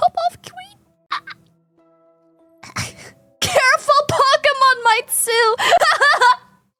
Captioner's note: laughs; laughs